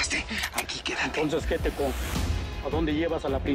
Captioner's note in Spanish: Sonido al cargar el arma